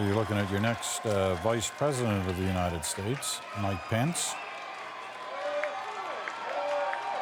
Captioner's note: cheering